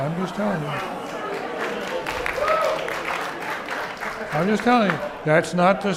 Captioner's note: audience clapping